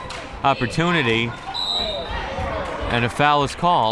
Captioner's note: whistle tweeting